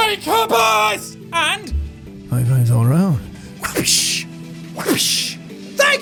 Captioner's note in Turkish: whapish